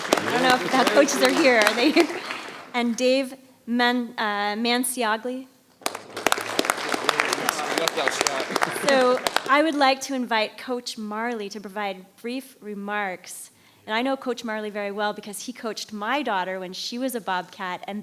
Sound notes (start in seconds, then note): 0.0 audience applauding; 5.8 audience applauding